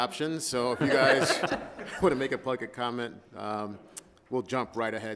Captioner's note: all laughing